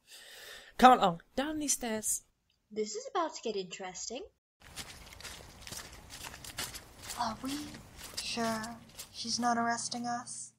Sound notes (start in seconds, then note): 4.6 footsteps as the party descends the stairs